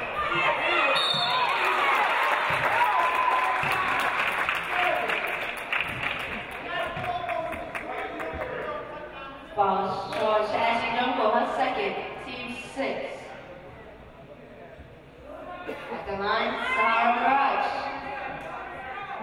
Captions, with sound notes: (referee blows whistle) (audience applauding) Foul, Ashley Drumgole. Second, teams sixth. At the line, Sa-Hara Maragh.